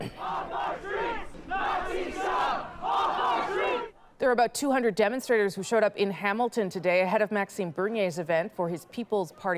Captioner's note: chanting